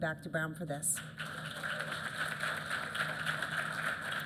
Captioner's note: applause